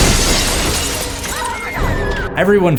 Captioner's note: breaking glass